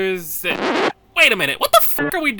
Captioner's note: record scratch